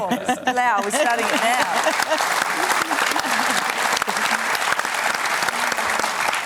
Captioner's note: applause